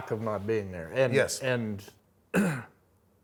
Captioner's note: clears throat